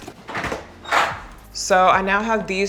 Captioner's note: door clacking